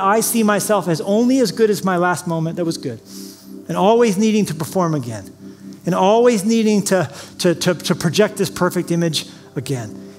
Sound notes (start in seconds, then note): none